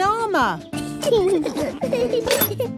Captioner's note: children giggling